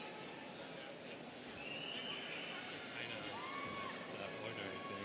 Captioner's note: students cheering; students chattering